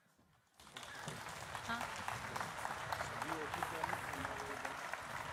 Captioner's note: applause